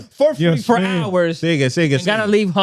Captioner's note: speaking In Foreign Language